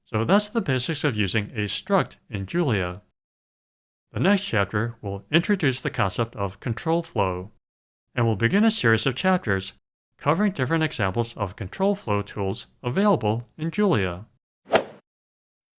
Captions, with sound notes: So that's the basics of using a struct in Julia. The next chapter will introduce the concept of Control Flow, and will begin a series of chapters covering different examples of Control Flow Tools available in Julia. [swoosh]